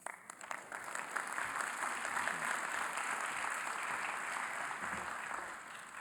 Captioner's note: applause